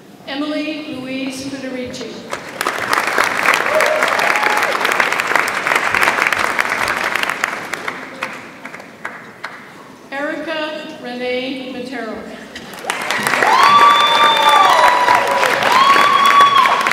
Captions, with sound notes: Emily Louise Pudarichie. (audience applauds) Erica Renee Matero. (audience applauds and cheers)